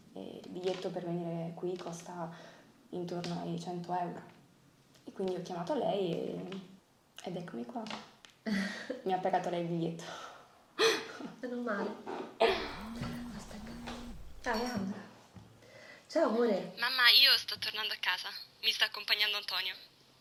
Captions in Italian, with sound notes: e il biglietto per venire qui costa.. intorno ai.. 100 euro.. e quindi ho chiamato lei e.. ed eccomi qua. Mi ha pagato lei il biglietto" "Menomale" *telefono che vibra* Aspetta! ..Ah è Ambra. "Ciao amore" "Mamma io.. sto tornando a casa.. mi sta accompagnando Antonio"